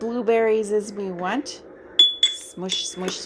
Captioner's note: spoon clinks on glass